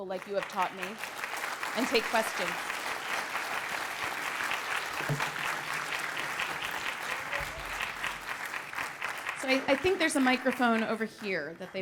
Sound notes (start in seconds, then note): 0.9 applause